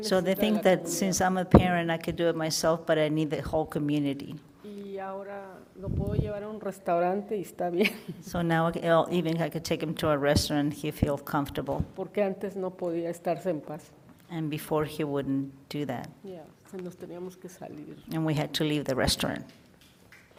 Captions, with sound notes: So they think that since I'm a parent, I could do it myself, but I need the whole community. (woman speaks in foreign language) So now even I could take him to a restaurant, and he feel comfortable and before he wouldn't do that. (woman speaks in foreign language) And we had to leave the restaurant.